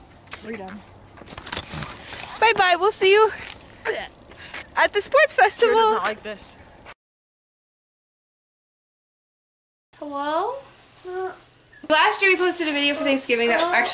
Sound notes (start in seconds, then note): 3.9 gags